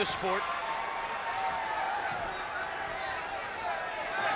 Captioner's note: crowd yelling